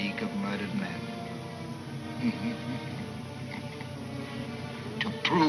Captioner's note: chuckling